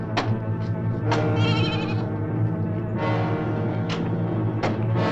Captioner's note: goat bleating